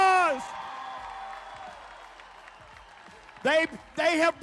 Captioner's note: crowd cheering